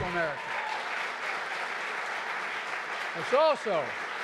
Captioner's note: applause